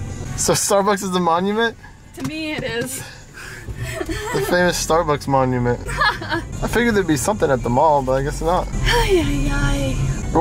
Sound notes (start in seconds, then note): 3.8 laughs; 5.8 laughs